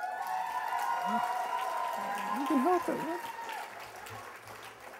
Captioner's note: cheers and applause